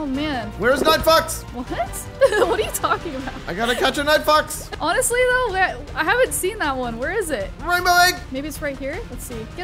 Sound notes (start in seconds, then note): 2.2 laughing